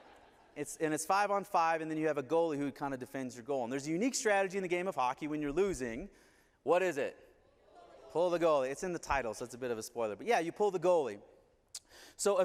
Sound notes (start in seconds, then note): 0.0 laughter; 7.7 audience responds